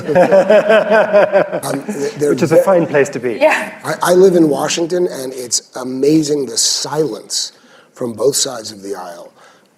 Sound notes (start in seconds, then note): 0.0 laughter